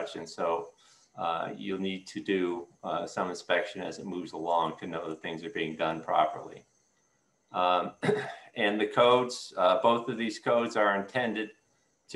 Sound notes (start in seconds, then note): 7.7 clears throat